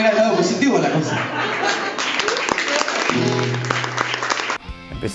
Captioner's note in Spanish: aplausos del público